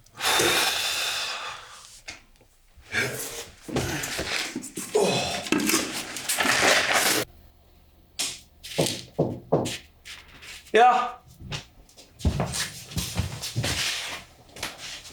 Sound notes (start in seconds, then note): 0.1 Brown sighing; 9.1 door knocking